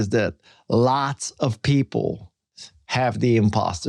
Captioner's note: none